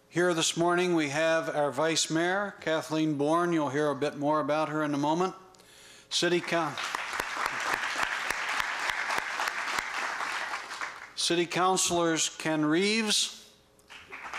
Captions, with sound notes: Here this morning we have our Vice Mayor Kathleen Born-- you'll hear a bit more about her in a moment-- [APPLAUSE] city councillors Ken Reeves,